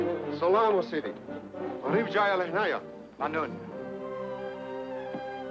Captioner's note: man speaking in foreign language